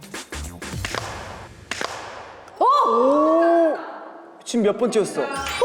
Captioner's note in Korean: 짝!